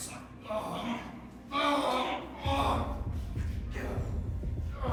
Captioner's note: Igor groaning; tense melodic music